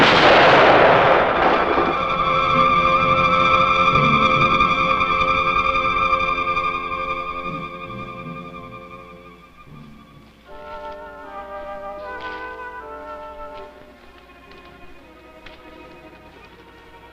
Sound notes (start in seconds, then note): 0.0 gun shooting; 5.5 bomb blasting; 7.8 suspenseful music